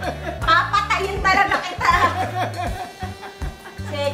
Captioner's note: laughing